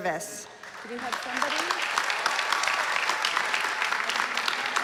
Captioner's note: applause